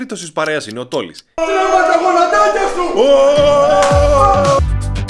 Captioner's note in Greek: πανηγυρισμοί